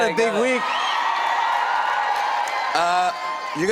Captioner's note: cheers and applause